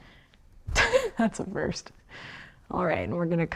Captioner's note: chuckles